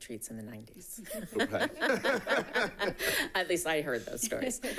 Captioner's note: both laughing